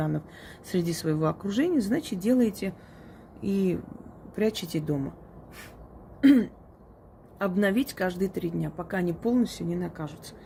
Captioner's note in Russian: откашливается